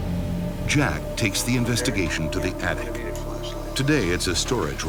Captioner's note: voiceover